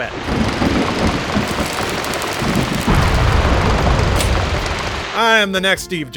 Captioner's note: thunder sounds, explosion